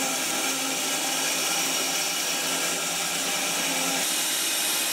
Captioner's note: saw whirring